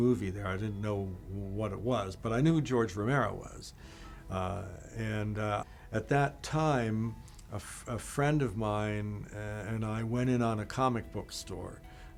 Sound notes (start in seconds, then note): none